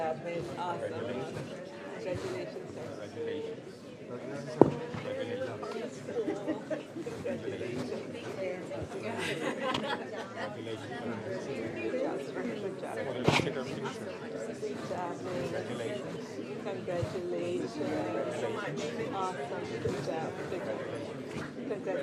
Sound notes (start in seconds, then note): 11.6 laughter